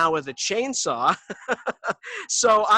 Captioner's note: laughing